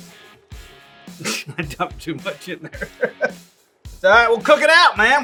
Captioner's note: laughs